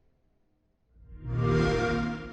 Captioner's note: xbox sound